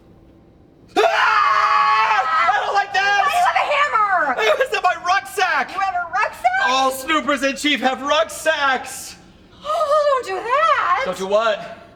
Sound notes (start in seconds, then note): 0.9 and more screaming